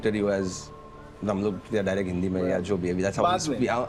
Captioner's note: speaking Hindi